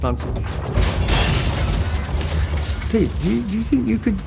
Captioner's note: crashing